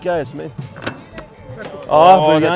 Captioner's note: speaks foreign language